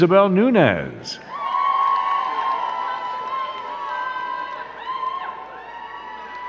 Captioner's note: crowd cheering and clapping